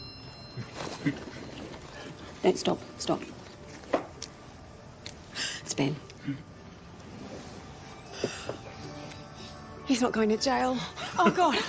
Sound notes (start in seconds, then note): 6.1 gasps